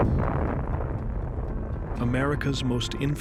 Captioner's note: explosion roars